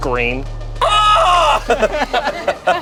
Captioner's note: screams; everyone laughs